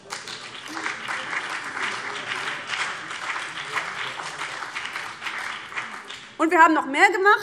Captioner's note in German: Beifall BÜNDNIS 90/DIE GRÜNEN und vereinzelt CDU